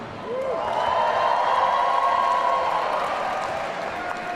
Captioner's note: audience cheering